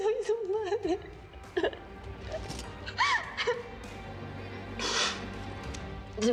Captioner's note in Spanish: Sollozos